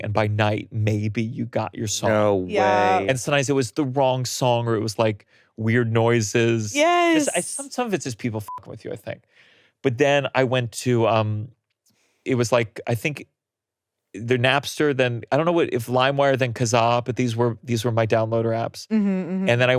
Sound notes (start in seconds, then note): 8.8 beeps